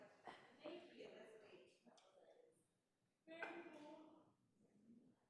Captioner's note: group chattering